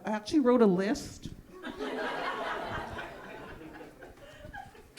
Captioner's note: audience laughing